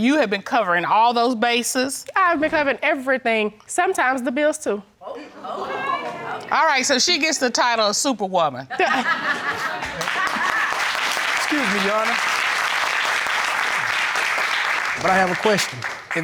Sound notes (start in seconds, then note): 5.0 audience exclaims; 8.9 audience laughs, applauds